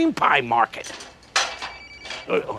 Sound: phone ringing

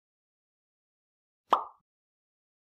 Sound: pop sound effect

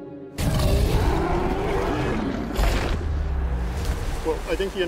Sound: Mosasaurus roaring

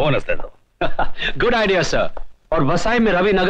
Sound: laughing

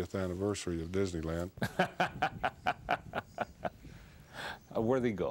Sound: laughs

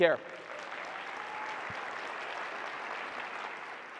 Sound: audience applauds

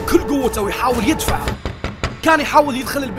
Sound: knocks

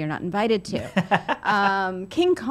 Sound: laughing

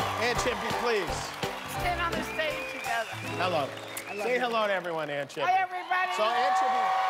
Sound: cheers and applause

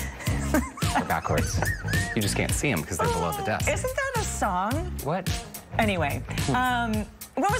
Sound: lghter

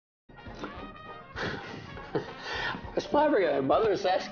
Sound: laughing

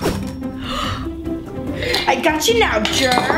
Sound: gasps

